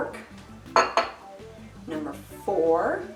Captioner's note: glass thuds